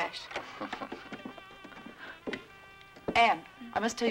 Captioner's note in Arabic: جو يضحك